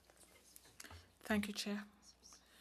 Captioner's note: speaking French